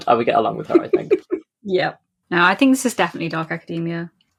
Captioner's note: laughs